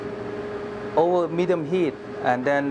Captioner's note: voiceover